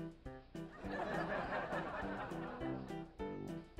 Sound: laugh

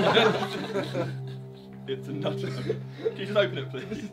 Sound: laughing

